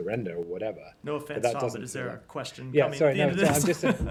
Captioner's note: laughter